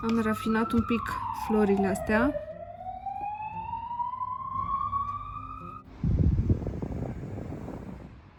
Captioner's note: loud ambulance noises